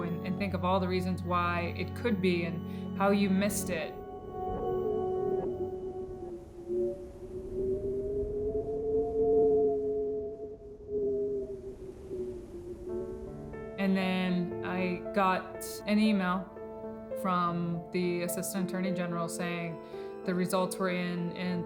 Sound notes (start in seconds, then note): 8.4 wind whistling; 13.9 somber music